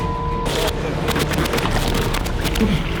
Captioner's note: richard laughs